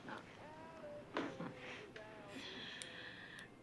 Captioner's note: chuckles